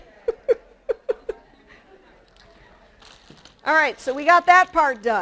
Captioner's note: chuckles